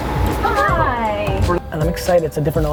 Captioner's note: voiceover